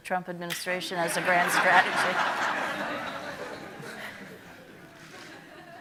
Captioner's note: audience laughing